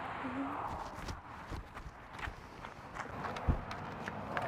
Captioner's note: feet pattering